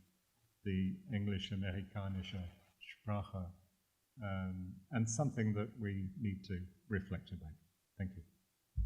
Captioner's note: german